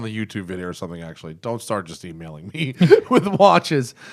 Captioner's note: laughter